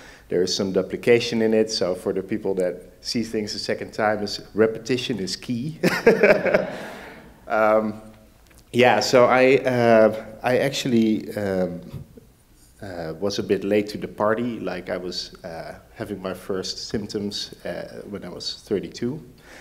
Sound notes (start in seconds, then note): 5.8 laughing; 5.9 audience laughs